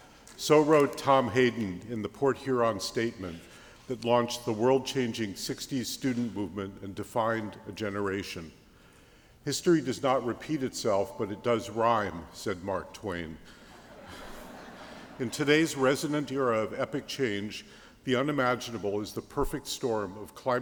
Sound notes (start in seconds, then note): 13.6 laughter